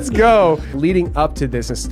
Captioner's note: all laughing